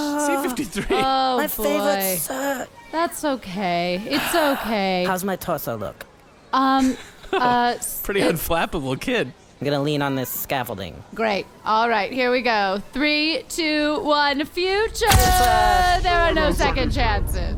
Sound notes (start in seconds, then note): 7.0 laughs; 15.0 voice distorted